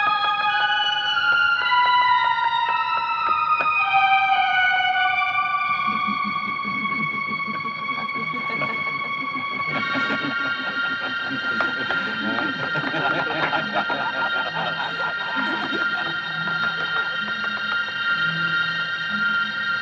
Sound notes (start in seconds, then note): 5.9 faint chuckling; 11.3 chuckling continues